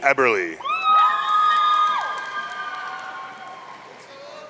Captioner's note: audience cheering